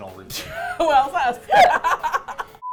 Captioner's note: laughing; laugh